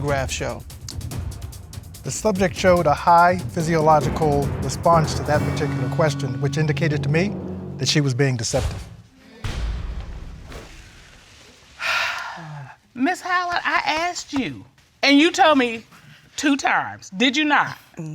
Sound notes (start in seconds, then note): 10.2 audience murmuring; 11.8 sighs